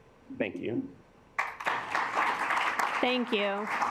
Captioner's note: assembly clapping